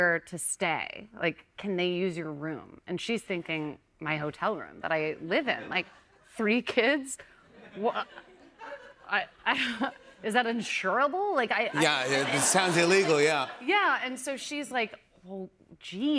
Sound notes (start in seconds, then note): 6.7 stammering; 7.5 laughter